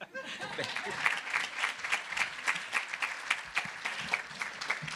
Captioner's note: audience applauding